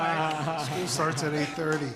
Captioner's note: group laughter